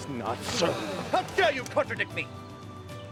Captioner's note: gasping